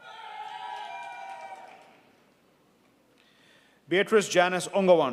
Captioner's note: audience cheering